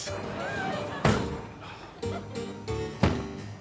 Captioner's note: audience laughing; iron thudding; harpsichord music